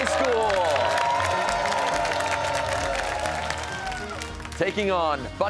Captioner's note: cheers and applause